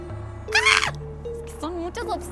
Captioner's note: squeals in kawaii